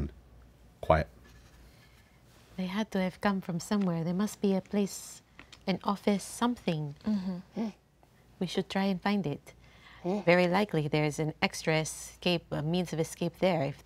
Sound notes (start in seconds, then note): none